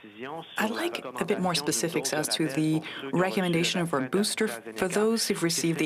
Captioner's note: speaking French